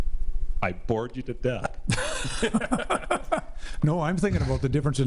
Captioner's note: laughs